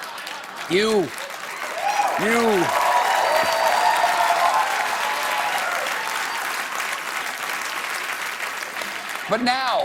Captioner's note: cheers and applause